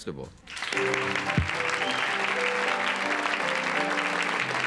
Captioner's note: crowd clapping